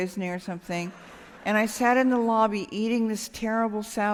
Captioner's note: laughter